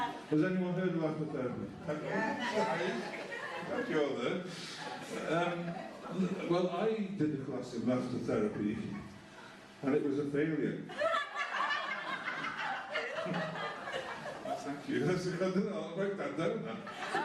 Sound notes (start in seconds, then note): 10.8 laughter